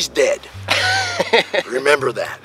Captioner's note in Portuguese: Risos